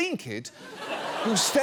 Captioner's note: studio audience laughing